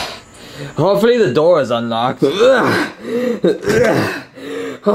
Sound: groaning

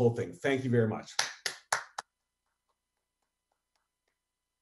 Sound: applause

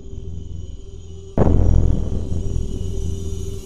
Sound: boom sound effect

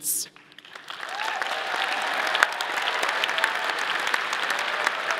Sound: audience applauding

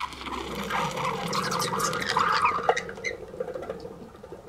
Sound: pshghhghghg

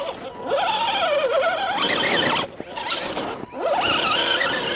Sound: engine whining

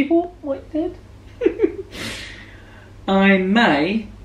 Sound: chuckling

